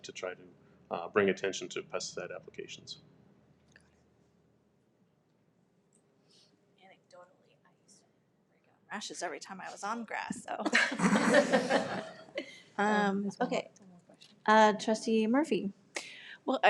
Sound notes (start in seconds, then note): 10.7 members laugh